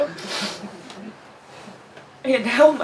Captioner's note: nose sniffling